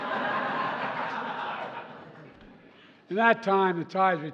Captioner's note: laughter